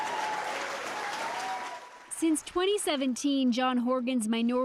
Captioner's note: applause